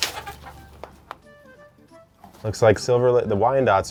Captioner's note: chicken clucking